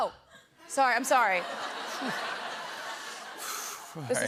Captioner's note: laughter